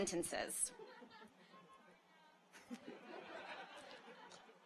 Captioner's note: audience laughs